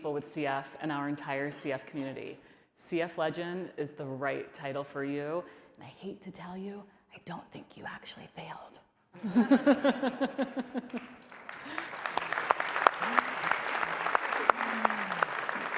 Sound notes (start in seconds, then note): 5.0 quiet voice; 9.2 laughter; 10.8 applause